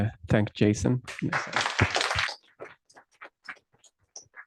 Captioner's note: applause